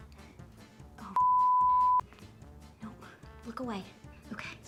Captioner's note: beep